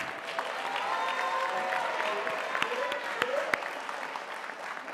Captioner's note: audience applauding